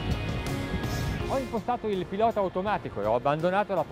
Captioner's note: foreign language